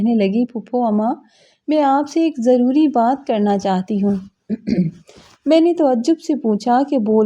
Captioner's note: clears throat